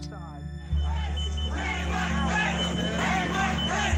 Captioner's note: crowd chanting